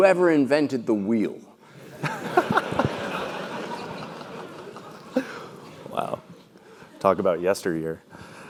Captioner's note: laugh